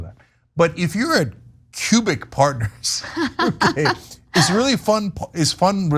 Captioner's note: laugh